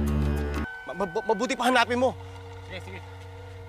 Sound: stammers

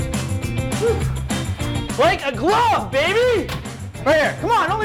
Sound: sighing

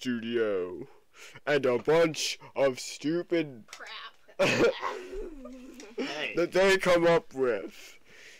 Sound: laughter

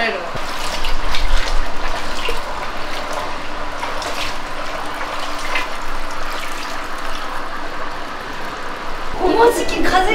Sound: sound of waves & hot water

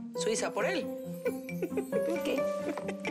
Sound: Ríe

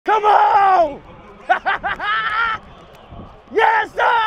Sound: laughing

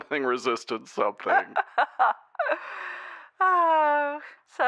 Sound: Rey giggles

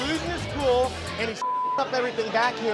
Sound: beep

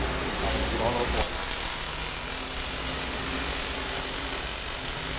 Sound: machine buzzing

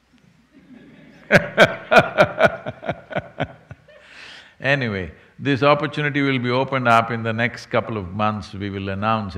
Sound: laughs

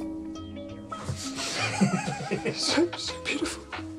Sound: sniffing

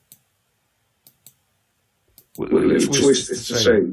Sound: mouse clicks

